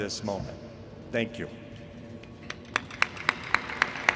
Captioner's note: applause